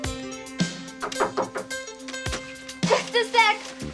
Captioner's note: knock on door